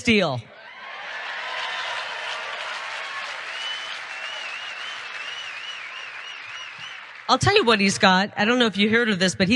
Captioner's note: applause